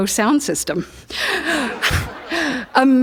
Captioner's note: laughter